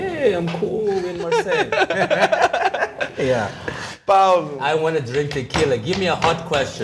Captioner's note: laughter